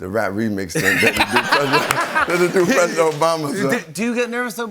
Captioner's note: laughter